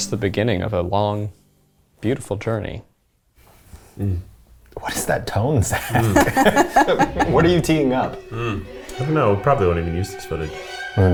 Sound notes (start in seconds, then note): 5.8 laughing